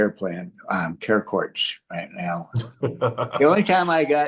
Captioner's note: laughs